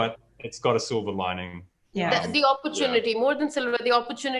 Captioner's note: laughing